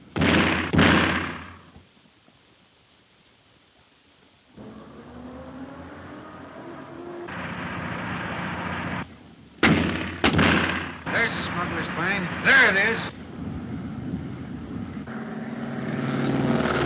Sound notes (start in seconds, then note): 0.1 gunshots crack; 9.6 gunshots crack